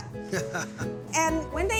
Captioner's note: chuckling